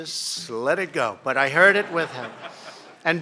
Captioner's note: laughter